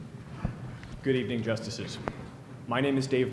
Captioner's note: voiceover